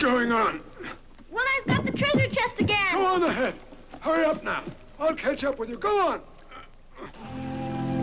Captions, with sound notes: - One Eye's got the treasure chest again! - Go on ahead! Hurry up now! I'll catch up with you, go on! (groans) (peaceful orchestral music) (water laps)